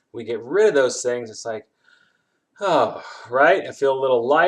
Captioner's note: sighs in relief